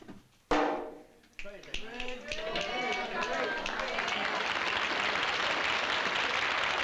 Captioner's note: fingers snapping followed by applause